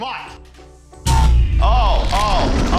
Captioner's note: power sounds down